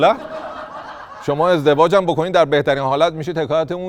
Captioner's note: laughter